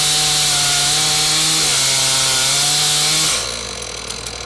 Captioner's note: chainsaw humming